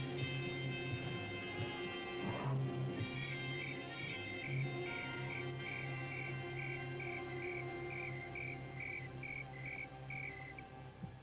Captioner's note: screaming